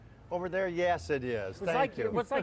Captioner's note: laughter